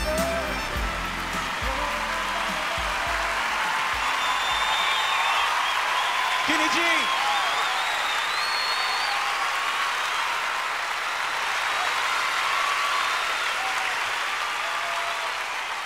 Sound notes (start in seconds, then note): 0.2 audience applauding; 3.6 audience applauding and cheering; 7.3 audience applauding continues